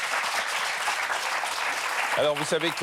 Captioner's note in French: applaudissements